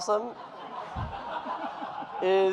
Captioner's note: audience laughing